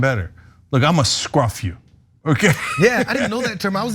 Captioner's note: laugh